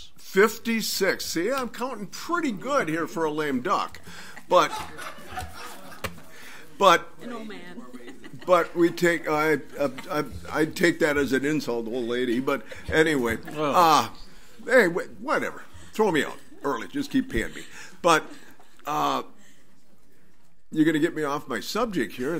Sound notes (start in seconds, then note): 4.0 audience laughs; 9.1 laughs